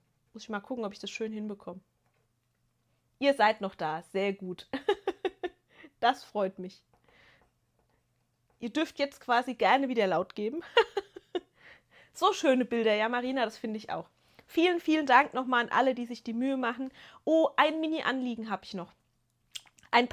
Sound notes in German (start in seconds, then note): 4.7 gelächter; 10.6 gelächter